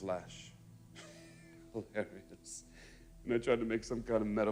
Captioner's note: laughs